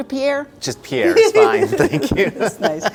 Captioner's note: laughs